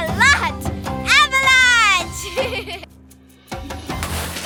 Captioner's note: giggling